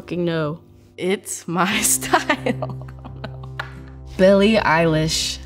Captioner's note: laughs